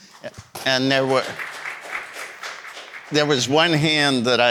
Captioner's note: audience applauding